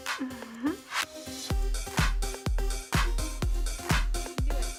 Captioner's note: giggling